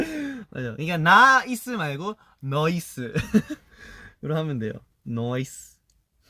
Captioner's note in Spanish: acento coreano; acento australiano